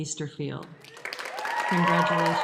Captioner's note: applause